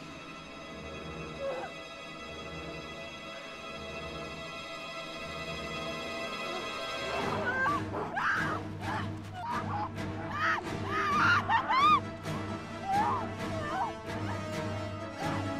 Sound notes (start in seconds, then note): 6.9 screaming